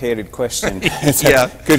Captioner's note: laughter